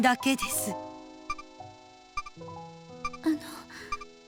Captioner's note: silence